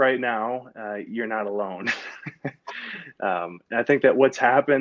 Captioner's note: laughs